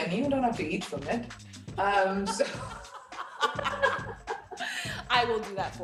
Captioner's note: laughter